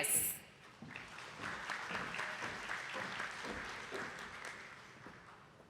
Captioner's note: attendees clapping